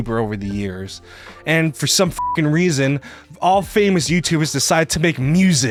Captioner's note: beeps